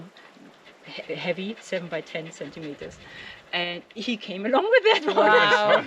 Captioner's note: laughing